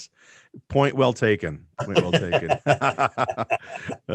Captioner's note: laughing